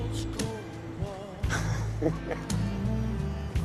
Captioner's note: laughing